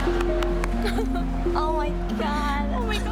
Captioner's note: cries